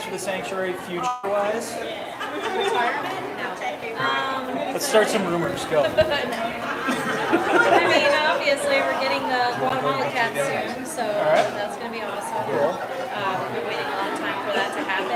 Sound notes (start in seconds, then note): 11.0 laughter